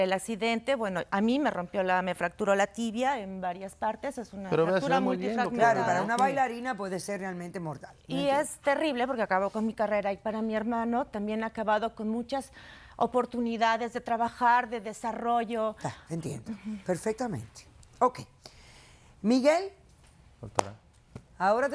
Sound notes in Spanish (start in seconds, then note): 4.6 Hablan al unísono